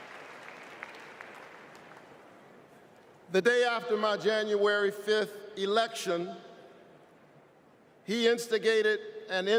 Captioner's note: applause